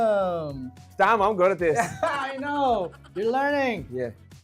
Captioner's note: laughs